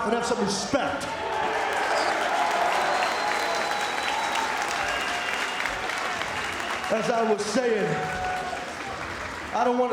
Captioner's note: applause